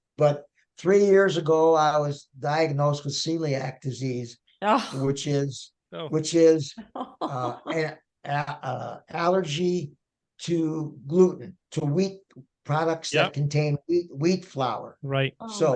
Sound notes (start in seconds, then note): 4.7 sighing; 6.9 laughing